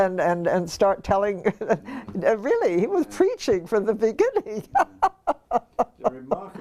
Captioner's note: laugh